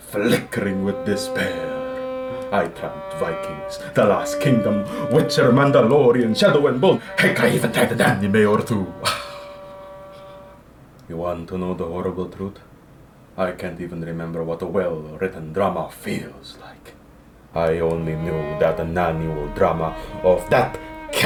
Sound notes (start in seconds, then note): 9.0 sigh